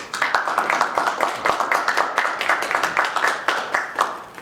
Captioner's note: applause